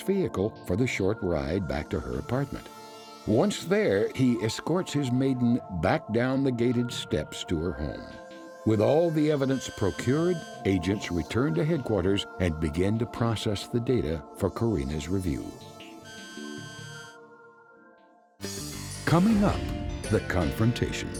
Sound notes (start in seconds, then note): 9.2 scanning beep; 15.6 scanning beep; 18.4 dramatic music